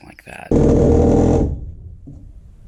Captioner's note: saw noises